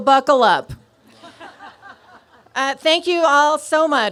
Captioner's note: laughter